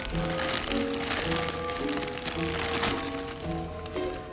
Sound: paper crinkling; paper tearing

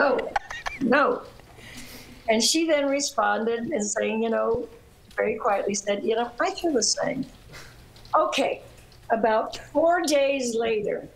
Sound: laughter

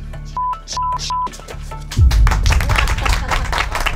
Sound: multiple beeps; audience applauds

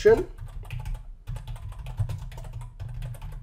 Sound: typing

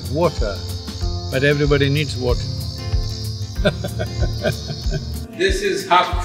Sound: laughs

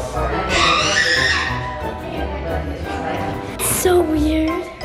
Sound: kids yelling

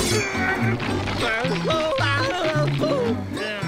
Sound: groaning

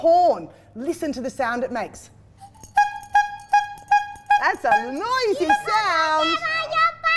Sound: honk, honk

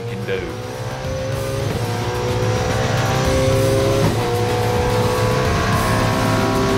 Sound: car engine roaring; rock music

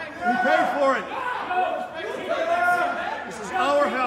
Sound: crowd yelling

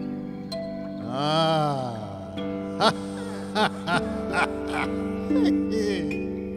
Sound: laughs

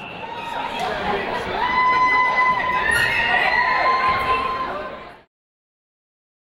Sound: people cheering in the crowd

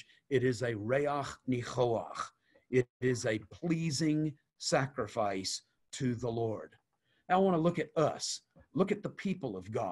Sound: Hebrew

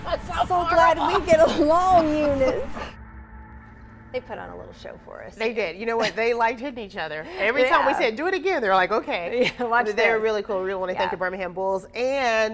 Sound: laughter

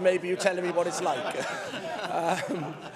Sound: laughter

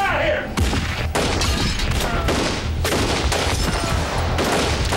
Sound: gunshots

